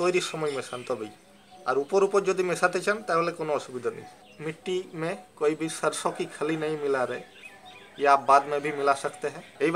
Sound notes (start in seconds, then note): 4.3 in Hindi